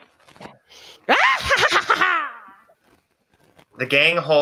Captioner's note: Sue Moonsoon laughing maniacally